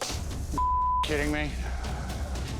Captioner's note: beep